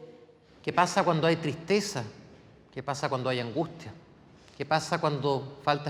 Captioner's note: speaking in foreign language